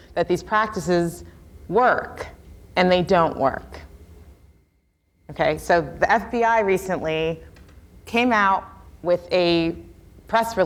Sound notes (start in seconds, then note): none